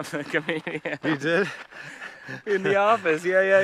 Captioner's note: laughs